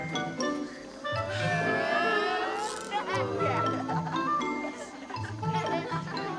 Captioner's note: boys on bus laughing